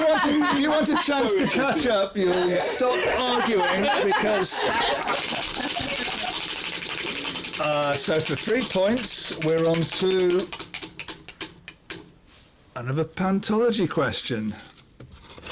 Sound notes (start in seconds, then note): 0.0 laughter; 5.0 wheel spinning